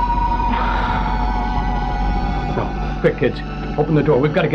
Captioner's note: sighs